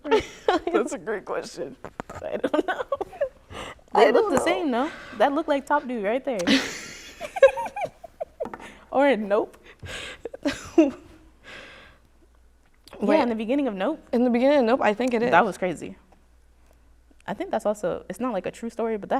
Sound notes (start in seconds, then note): 2.3 laughs; 2.3 chuckles; 6.4 laughter